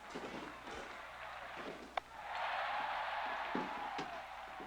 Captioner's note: cheering